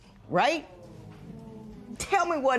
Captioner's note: spectators murmur